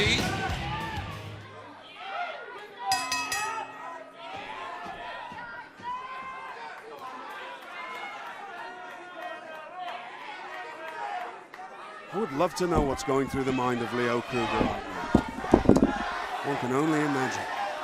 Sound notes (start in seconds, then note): 2.9 bell ringing; 5.6 crowd chatter